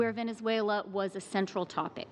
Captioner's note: speaking english